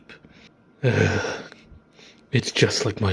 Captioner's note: Shadow sighs